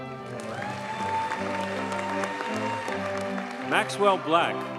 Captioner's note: audience cheers and applauds